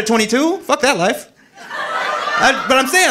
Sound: audience laughing

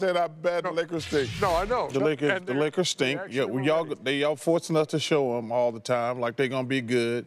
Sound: laughter

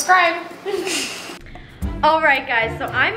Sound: laughs

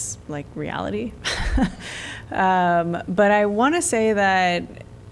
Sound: laughter

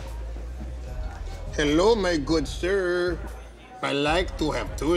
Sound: Spanish accent

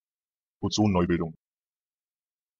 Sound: fast Pronunciation

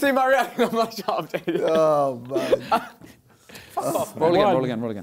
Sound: crowd mumbling

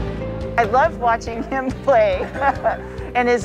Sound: laughs

